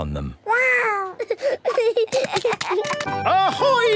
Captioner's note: giggling